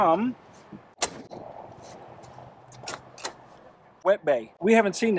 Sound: trunk door thuds

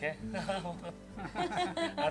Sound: laughs

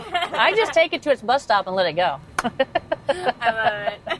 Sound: laughs; laughs

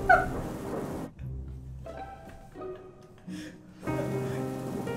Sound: laughing

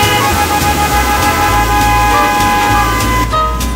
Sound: cars honking; sweeper honking

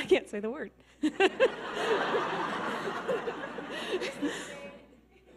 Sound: audience laughing

